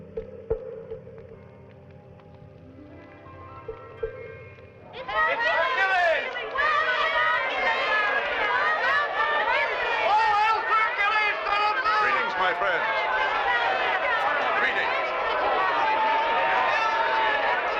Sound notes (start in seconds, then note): 4.3 children chattering; 14.5 all cheering